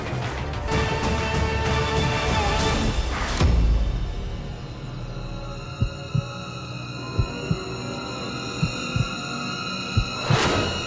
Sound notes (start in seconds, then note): 0.5 tense music plays; 5.7 heart beating